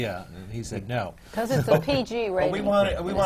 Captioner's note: laughs